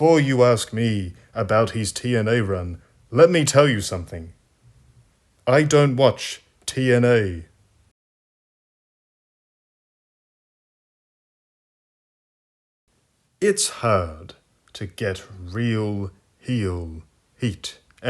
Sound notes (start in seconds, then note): 10.6 awkward silence